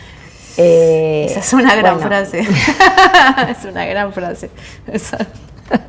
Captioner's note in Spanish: risas